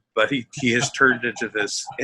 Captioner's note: laughing